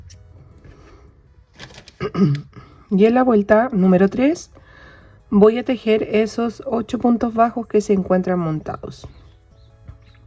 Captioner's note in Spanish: carraspeo